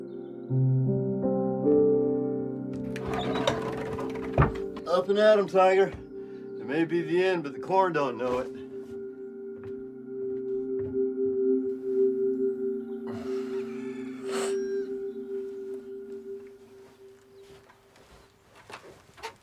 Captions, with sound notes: (somber music) (birds chirping) - Up and at 'em, Tiger. It may be the end, but the corn don't know it. (Mason sighing) (birds chirping)